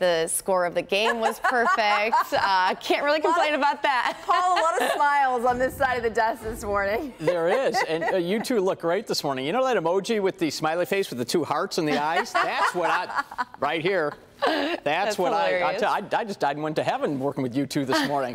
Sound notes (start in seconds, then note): 7.2 laughter